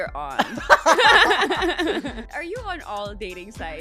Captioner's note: laughs